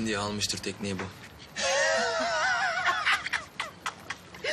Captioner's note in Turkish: Kahkaha sesi gelir